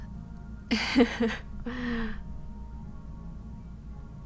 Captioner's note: laughing